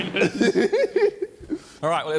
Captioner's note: JJ laughing